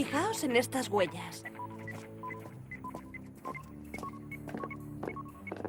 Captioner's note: satellite beeping